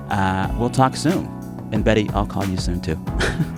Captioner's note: laughter